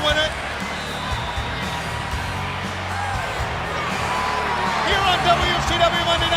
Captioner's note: crowd cheering